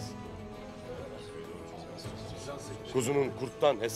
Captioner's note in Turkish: Konuşma sesleri